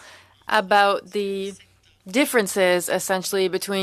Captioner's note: speaking french